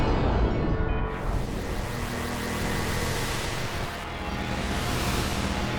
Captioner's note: static hissing